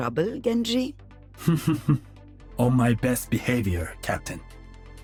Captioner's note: laughs